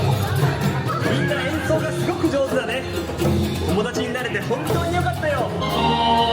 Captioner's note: characters speaking Japanese